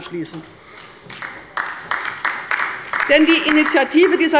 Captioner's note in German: Beifall bei der LINKEN und der SPD